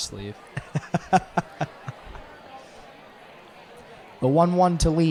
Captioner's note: indistinct chatter